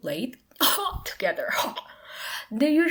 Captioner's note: cough